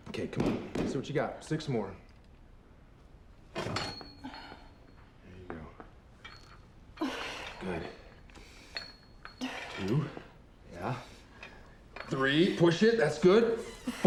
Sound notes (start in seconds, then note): 3.5 weights clatter; 6.4 grunts